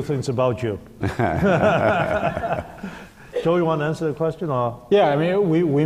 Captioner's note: laughter